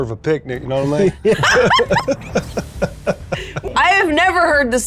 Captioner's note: group laughing